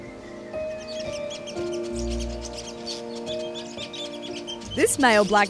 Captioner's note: birds chirping